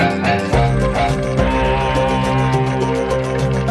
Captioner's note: crowd applauding